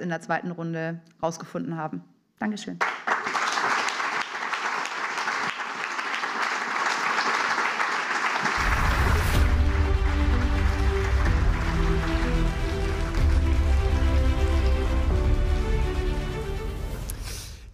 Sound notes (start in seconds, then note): 2.8 applause